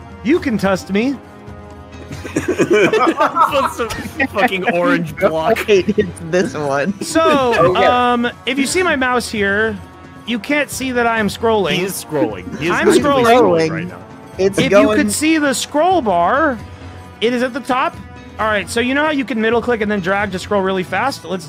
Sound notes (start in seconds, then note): 2.0 laughter